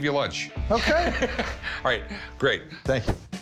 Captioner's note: Rick laughs